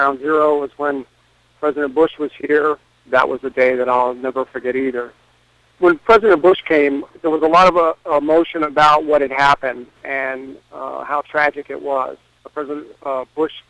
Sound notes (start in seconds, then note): none